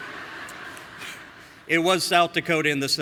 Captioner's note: audience laughing